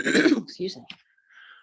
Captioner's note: clearing throat